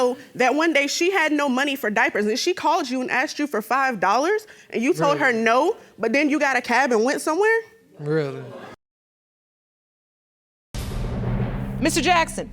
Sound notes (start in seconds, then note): 8.5 audience moans